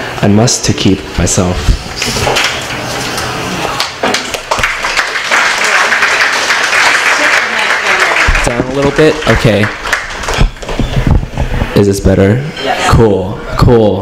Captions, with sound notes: I must to keep myself. [applause] Down a little bit? Okay. Is this better? Cool. Cool.